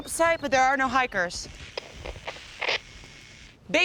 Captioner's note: Static